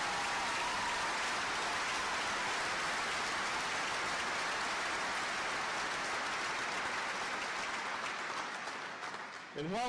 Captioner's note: applause